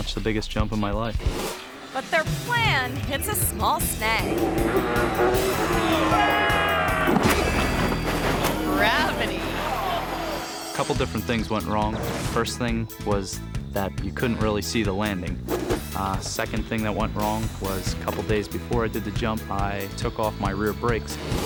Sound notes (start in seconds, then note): 5.0 ATV engine revs; 6.5 groans; 7.3 ATV thuds